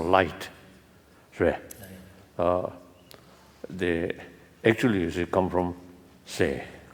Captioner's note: foreign language